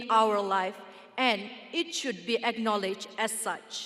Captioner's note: none